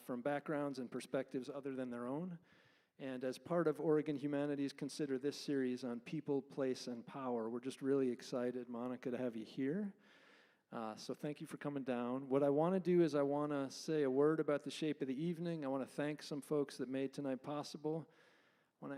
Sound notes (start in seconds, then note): none